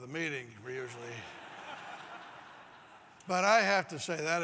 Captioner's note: laugh